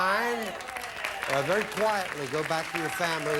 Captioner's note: audience applauding